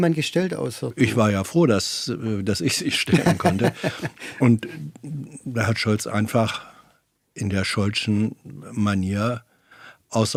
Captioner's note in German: gelächter